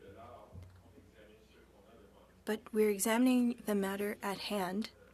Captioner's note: speaking French